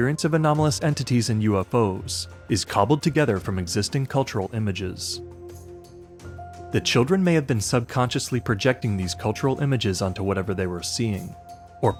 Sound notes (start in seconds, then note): none